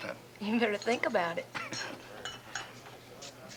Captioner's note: chuckles